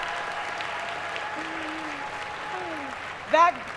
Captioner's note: applause